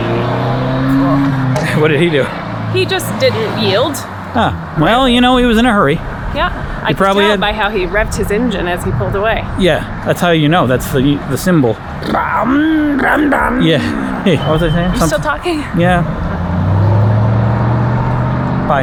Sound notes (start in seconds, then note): 12.7 revs like a car